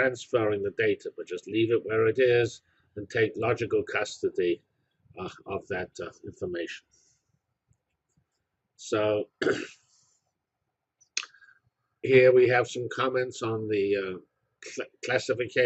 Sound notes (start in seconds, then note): 9.3 cough